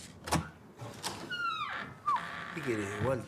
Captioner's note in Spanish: puerta se abre